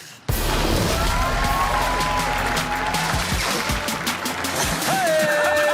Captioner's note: audience claps and cheers